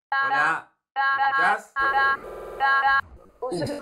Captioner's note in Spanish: distorsionado